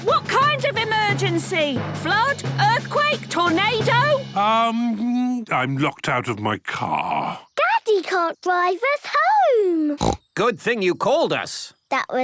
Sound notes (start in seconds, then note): 10.0 snorts